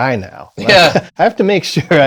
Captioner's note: laughter